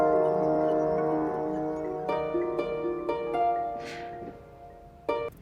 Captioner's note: phone ringing